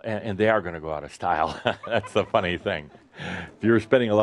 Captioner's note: Adamus chuckles